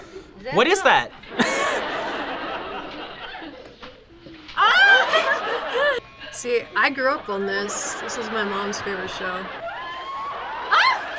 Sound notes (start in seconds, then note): 1.2 laughs; 4.5 squeals